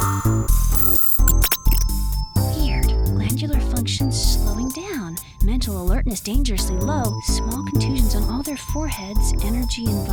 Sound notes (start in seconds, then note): 0.0 beeping